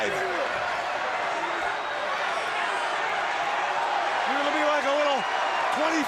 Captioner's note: crowd cheering